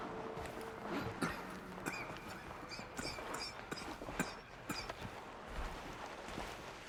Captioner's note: coughing